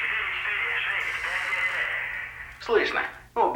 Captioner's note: chair creaking